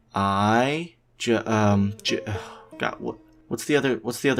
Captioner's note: sigh